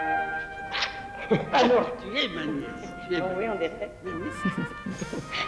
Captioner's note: speaking french